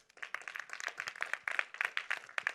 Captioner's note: applause